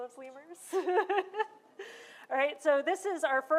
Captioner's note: laughter